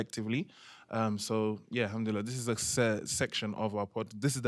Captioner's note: non-english